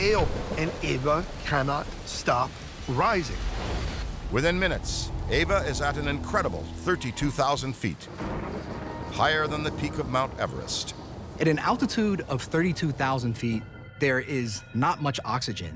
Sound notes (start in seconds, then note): 8.1 thunder rumbles